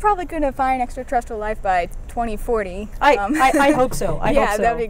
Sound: knocks on wood

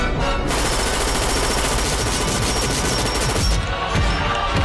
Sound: shot fire

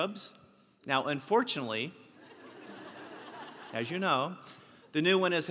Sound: laugh

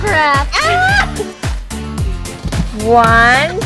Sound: nana shrieks

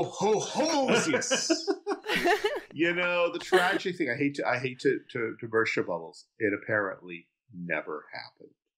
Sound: laughing

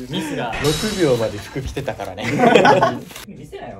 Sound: laughing

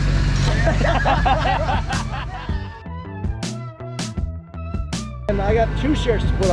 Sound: laughter

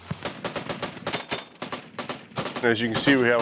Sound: gun firing

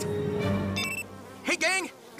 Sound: beeps

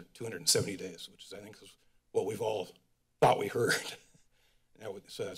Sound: laughs

